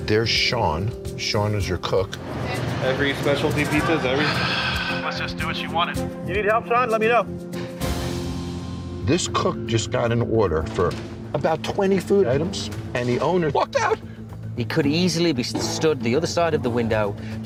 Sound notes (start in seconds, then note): 4.1 sighs